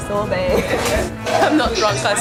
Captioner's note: laughs